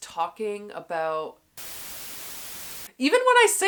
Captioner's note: static white noise